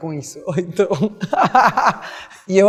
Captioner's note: laugh